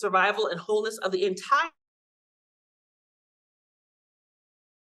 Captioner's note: audio cuts out